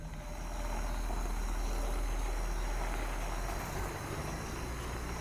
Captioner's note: cars passing